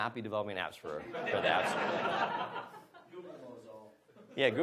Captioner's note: audience laughs